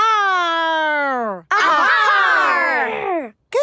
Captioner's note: all shouting